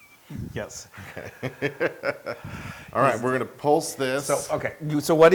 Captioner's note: laugh